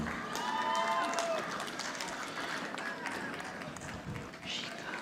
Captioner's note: audience applauding